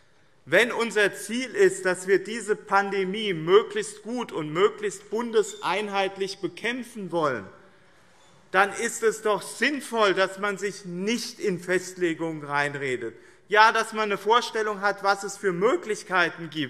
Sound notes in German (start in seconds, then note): none